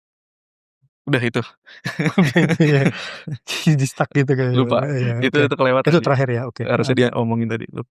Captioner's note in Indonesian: tertawa